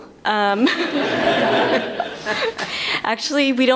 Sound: laughter

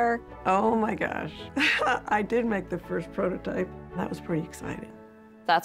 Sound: laugh

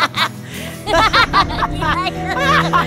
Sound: laughing

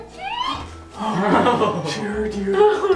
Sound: nervous laughing

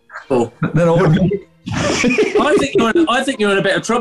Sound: laughter

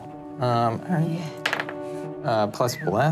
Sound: dice clattering

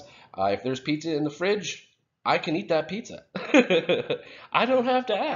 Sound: laughing

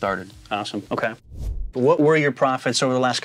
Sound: air swooshing

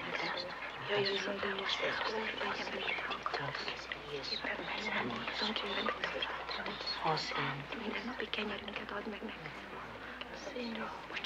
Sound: all whisper in prayer

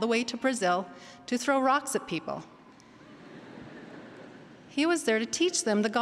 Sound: laughter

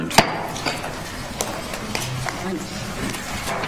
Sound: gavel taps

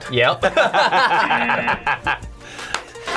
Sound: both laugh; buzzer

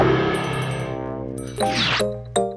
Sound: bell ringing; electronic music

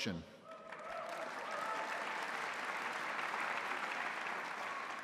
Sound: audience applauding

